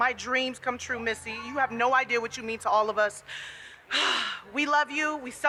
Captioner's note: sighs